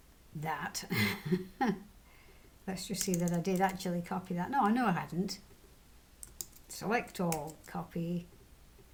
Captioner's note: laughs